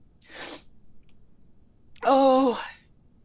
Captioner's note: imitates sniffling